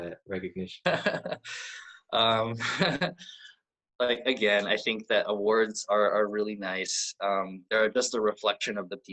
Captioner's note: laughs